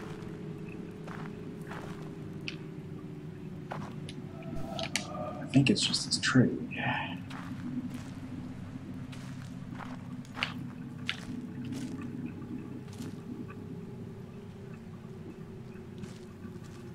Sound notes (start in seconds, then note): none